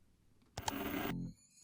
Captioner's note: old timey tv channel change